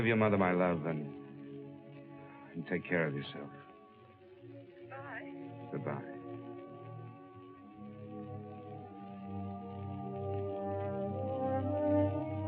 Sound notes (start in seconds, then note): 5.3 on phone